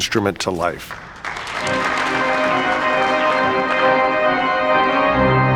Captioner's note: applause, organ playing dramatic music